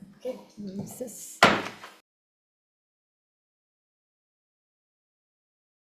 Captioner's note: gavel taps